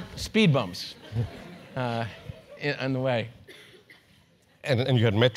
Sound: laugh

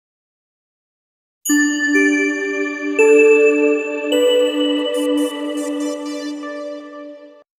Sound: chime

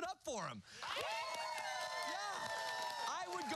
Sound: cheers and applause

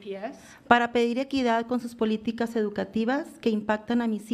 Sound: foreign language

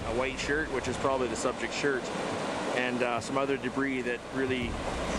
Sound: voiceover

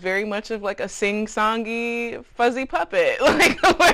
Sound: laughs

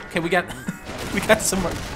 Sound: laughs

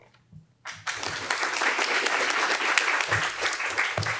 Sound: audience applauds

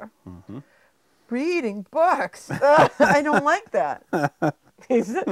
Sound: chuckling

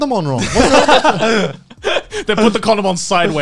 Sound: laughing

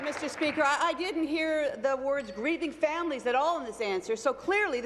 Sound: applause

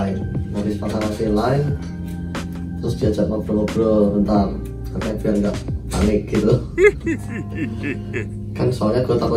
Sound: chuckles

